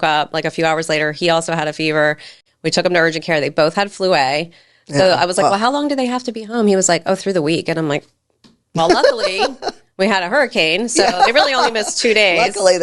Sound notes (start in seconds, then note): 8.8 laughing